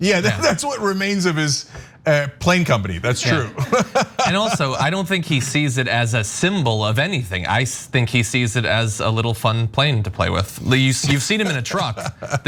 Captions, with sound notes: >> Yeah, that's what remains of his plane company. That's true. [LAUGH] >> And also I don't think he sees it as a symbol of anything. I think he sees it as a little fun plane to play with. You've seen him in a truck.